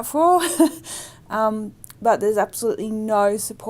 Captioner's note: laughs